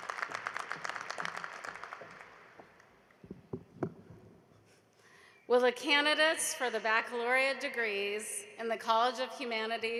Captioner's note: applause